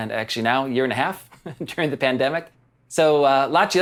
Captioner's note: chuckles